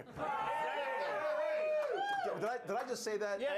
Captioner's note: audience cheering